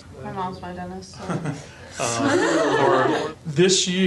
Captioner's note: laughing